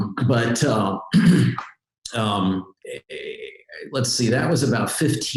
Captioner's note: clears throat